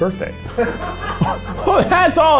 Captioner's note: laughing